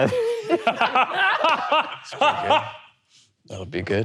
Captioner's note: all laughing